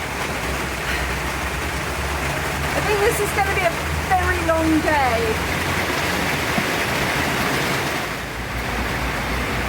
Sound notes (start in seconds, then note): 0.8 sigh; 6.3 heavy rain